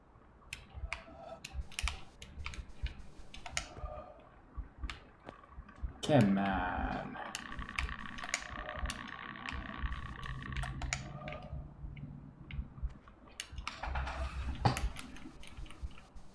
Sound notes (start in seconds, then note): none